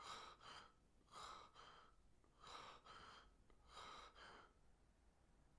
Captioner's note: breathing hard